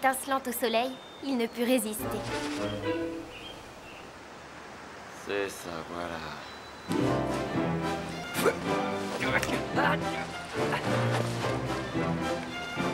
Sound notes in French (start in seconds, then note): 2.0 musique orchestrale décalée; 8.3 grognement